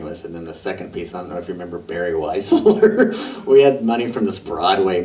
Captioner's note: laughter